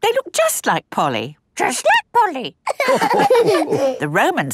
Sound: all laughing

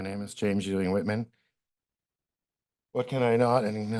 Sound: pause

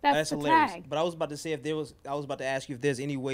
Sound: voiceover

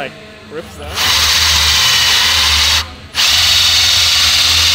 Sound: drill whirs

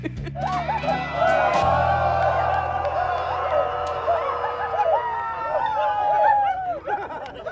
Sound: cheering

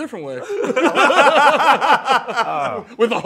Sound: laughter

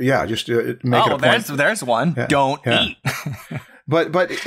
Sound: chuckles

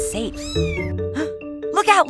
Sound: Lucie meowing

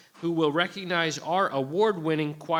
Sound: none

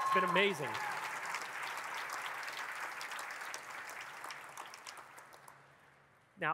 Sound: audience clapping and cheering

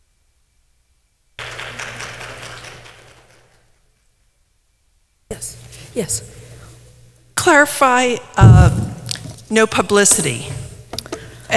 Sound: applause

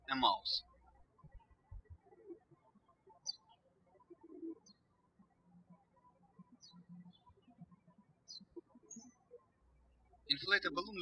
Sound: birds chirping

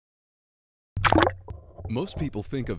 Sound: splash

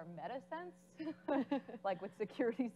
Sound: laughing

